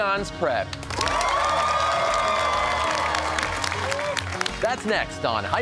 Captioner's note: cheers and applause